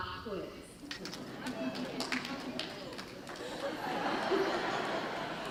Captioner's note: audience laughter